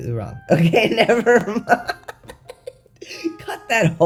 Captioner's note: laughter